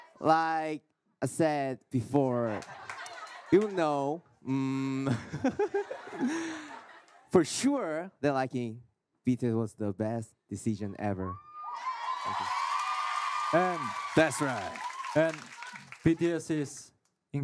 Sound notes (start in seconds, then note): 5.0 laughing